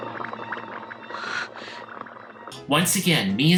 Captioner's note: gasps